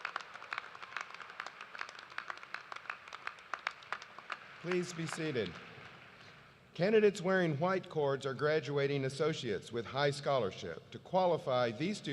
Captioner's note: cheers and applause